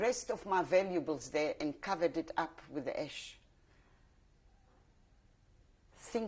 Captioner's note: pauses for 3 seconds